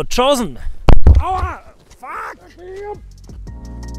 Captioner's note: highly motivated screaming